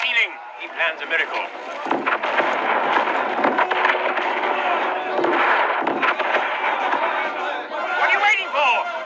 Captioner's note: cannonfire & war